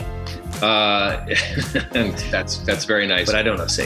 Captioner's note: laughs